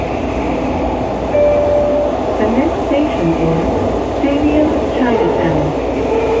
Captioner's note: next station chime